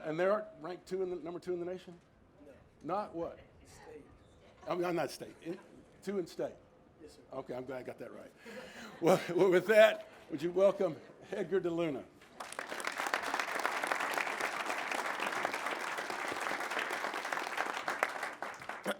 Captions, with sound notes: And they're ranked number two in the nation? - No. - Not? What? - State. - (fumbles words) two in state? - Yes, sir. - Okay, I'm glad I got that right. Well with that, would you welcome Edgar Deluna. (all clap)